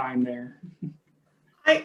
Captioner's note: chuckles